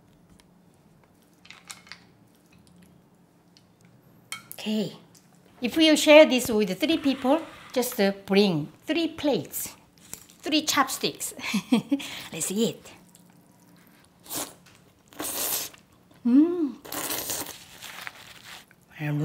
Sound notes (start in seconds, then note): 11.4 laughs; 14.4 slurping